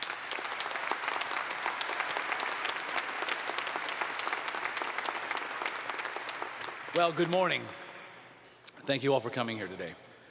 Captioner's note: applause